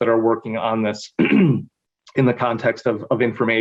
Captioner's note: clears throat